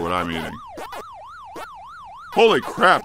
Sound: pac-man sounds

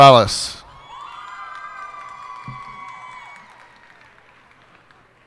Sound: cheers and applause

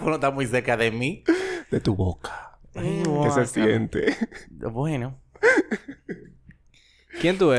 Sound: laughs

